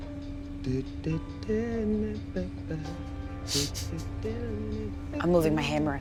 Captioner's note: vocalizing elevator music